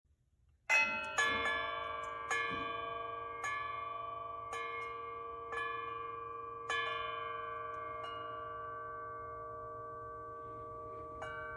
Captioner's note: bell ringing